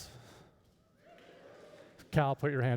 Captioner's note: scattered cheers